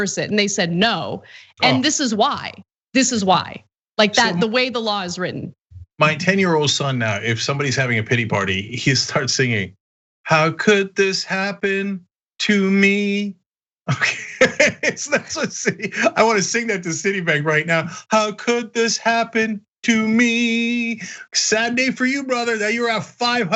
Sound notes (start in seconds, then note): 13.8 laugh